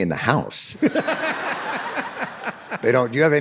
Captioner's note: David and audience laughing